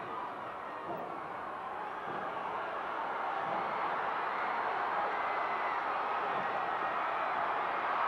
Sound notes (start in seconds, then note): 3.7 audience cheering continues